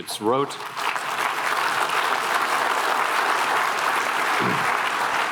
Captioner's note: applause